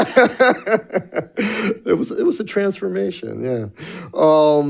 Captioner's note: laughs